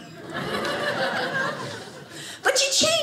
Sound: audience laughing

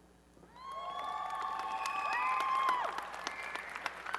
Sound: applause and cheering

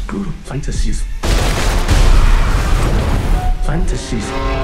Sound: explosion booms; gunshots popping; metal screeching

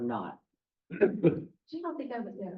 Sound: chuckle

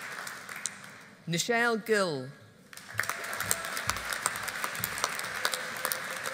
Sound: audience applauding

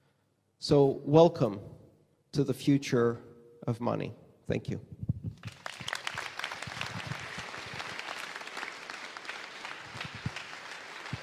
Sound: applause

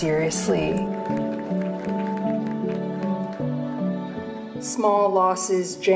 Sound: audience clapping

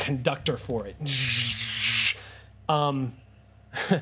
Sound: laughs

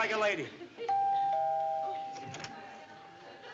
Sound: doorbell

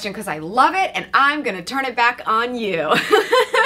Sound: chuckles

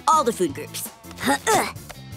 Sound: grunting

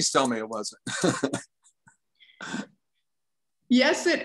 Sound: chuckles

